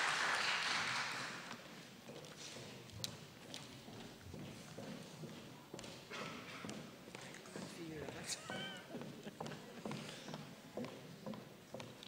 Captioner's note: applause